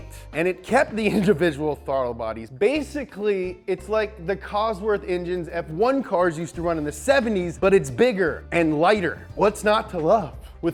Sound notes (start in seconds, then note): none